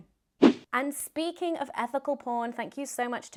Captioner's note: swishing